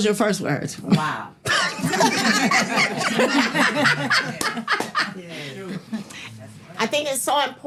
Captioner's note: people laughing